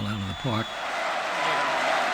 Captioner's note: chanting